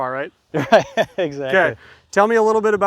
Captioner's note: laughs